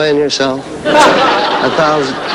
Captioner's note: laughter